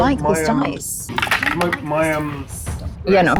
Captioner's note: die rattles